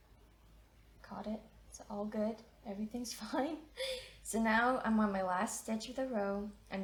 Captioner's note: chuckles